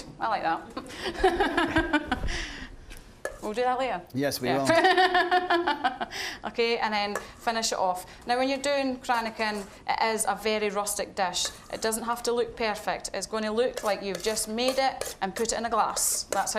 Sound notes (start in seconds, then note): 0.0 audience chuckling; 0.9 all laughing; 5.1 laughing